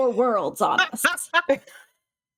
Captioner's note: cast members laughing